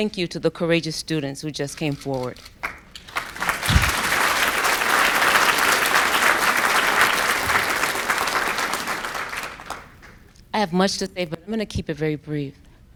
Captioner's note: applause